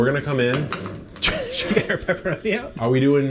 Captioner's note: laughs